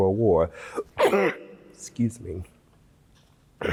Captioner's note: sneezes